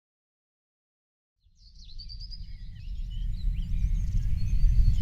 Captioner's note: birds chirping